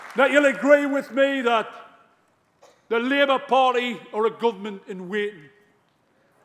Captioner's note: applause